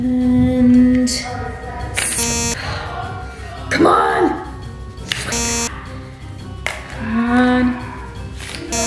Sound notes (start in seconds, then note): 2.1 negative buzzing; 5.2 negative buzzing